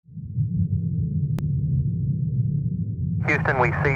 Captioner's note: space humming